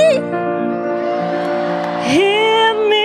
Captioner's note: audience applauding and cheering